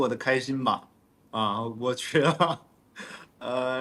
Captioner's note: laughs